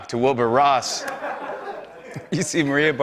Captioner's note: laughter